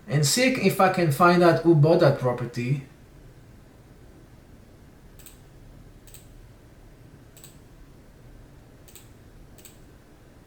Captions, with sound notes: and see if I can find out who bought that property. (computer mouse clicks)